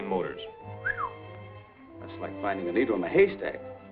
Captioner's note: whistles